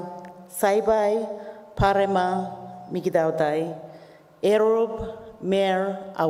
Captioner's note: continues to speak native language